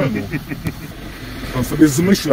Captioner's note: guard laughs